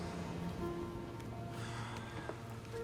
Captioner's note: sighs